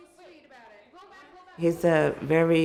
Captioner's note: background chatter